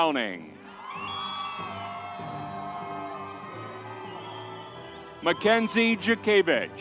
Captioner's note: uplifting music continues; audience cheers